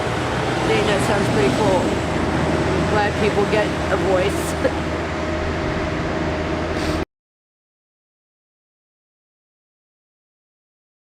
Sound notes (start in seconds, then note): 4.4 laughs